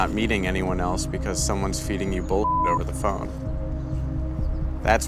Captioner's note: beeping